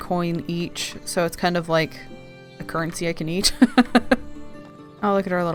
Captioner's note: laughs